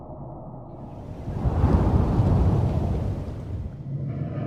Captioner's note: submarine engine whirring